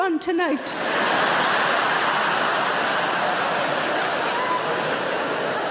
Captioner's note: audience laughing loudly